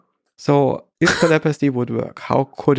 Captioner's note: Lex chuckles